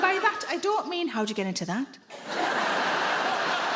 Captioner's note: in a lustful voice